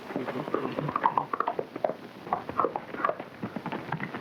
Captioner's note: hooves clopping